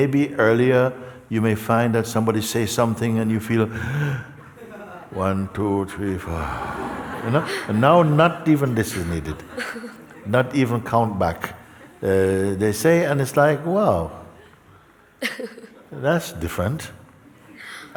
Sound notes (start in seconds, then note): 3.7 breathes in deeply; 6.3 exhales